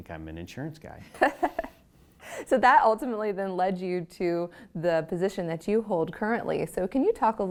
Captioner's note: laugh